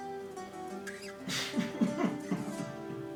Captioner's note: exasperated chuckle